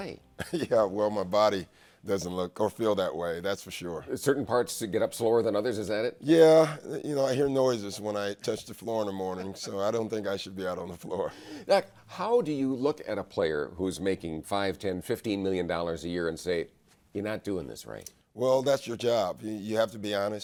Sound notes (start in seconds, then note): 0.4 laughs